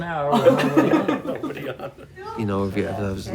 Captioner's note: laughter